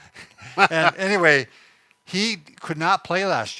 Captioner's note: laughs